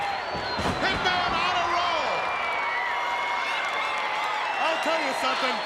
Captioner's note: crowd cheering